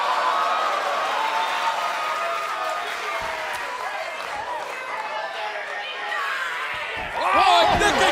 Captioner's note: crowd cheering